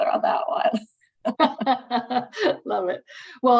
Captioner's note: laughter